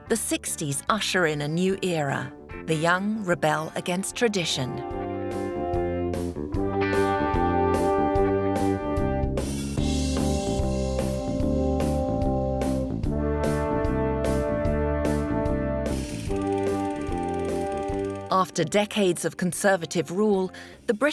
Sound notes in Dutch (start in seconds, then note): 16.2 projector zoemt